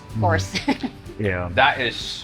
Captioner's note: chuckles